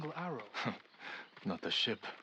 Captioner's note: laugh